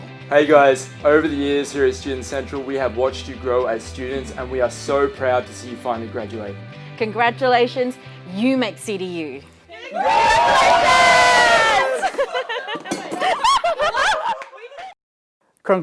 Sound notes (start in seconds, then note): 9.8 people cheering; 12.5 people laughing